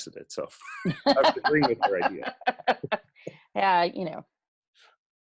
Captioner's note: laughs